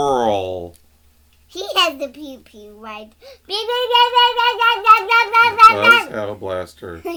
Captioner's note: shouting pew-pew sound effects